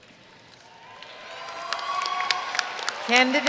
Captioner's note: audience cheering and applauding